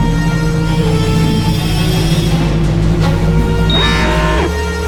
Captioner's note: suspenseful music rises; systems humming; alarm blares